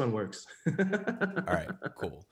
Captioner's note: laughs